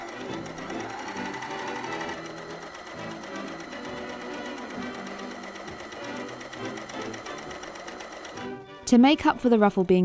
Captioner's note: overlocker whirring